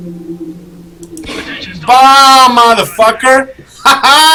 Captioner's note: gunshot; Beard over the radio "Attention stalkers..."